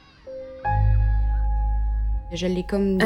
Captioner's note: speaking French with translation